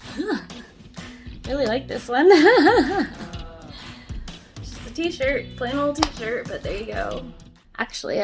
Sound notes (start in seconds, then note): 2.2 laughs